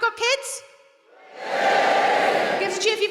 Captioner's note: audience cheering